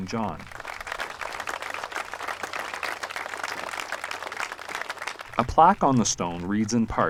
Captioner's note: applause